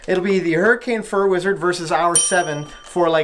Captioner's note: ding